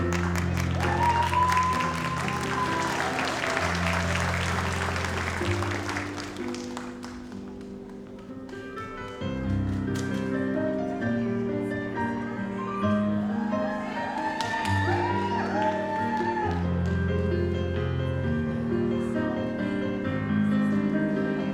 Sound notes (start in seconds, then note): 0.0 audience applauds; 7.0 gentle music; 14.9 audience applauds; 18.8 gentle music